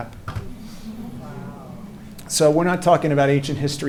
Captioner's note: audience murmuring